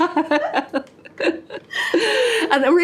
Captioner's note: laughs